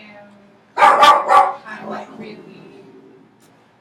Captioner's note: dog barking